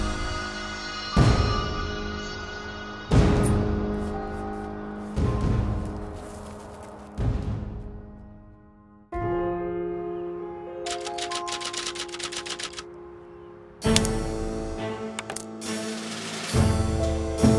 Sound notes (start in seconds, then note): 10.8 typewriter clanks; 13.8 determined music